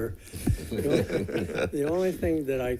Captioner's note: laughter